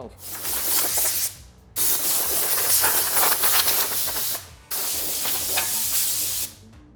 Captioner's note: spraying sound